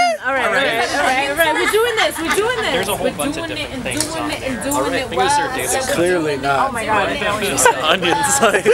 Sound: lots of drunken banter

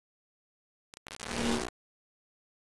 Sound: audio Glitch

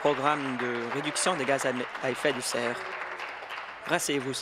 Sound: applause

